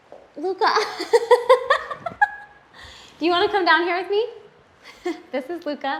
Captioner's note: giggles